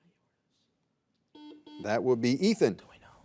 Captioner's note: buzzer buzzing